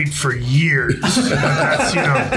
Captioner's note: laughing